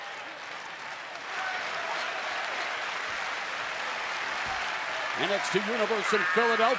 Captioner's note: crowd cheering